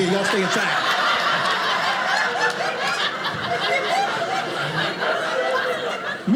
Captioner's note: audience laughing